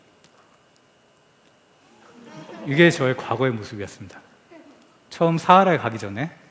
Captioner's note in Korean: 웃음